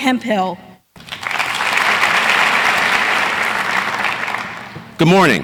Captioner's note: audience applauding